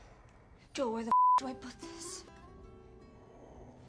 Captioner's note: beep